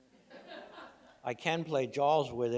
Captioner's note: laughs